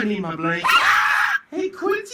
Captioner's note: dog barking